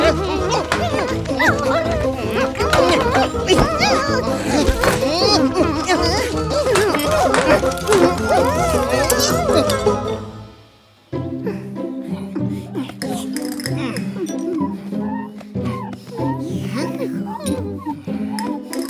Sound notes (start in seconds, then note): 17.0 drinking